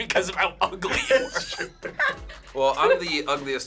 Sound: laughs

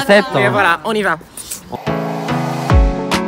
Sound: kiss

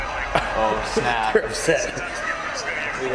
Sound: laugh

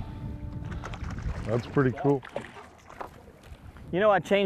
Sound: splashing

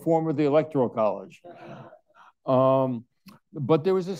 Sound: all laughing

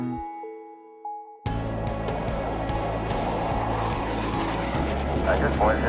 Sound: jet airplane taking off

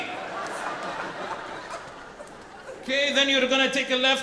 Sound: audience laughing

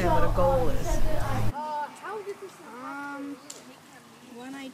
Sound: kids chattering

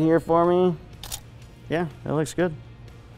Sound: click of camera

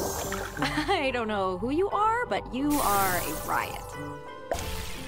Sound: Raine laughs

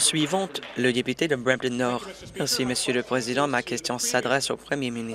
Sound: applause

